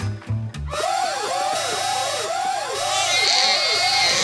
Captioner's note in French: Alarme hyper forte; Alarme hyper forte + cri de bébé